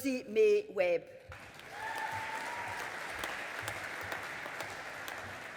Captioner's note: audience applauding